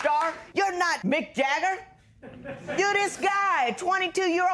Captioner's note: laughter